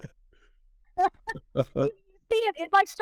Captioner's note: laughing